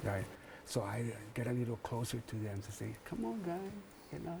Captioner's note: whispering